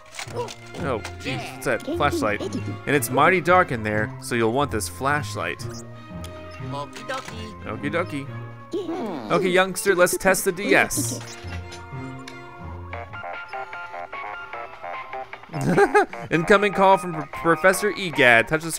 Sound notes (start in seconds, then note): 7.5 voiceover; 13.2 cartoony digital ringtone; 15.5 laughter